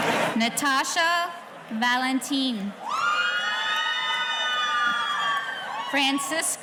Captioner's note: audience cheering